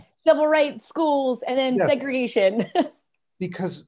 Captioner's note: laughter